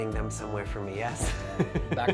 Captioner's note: chuckling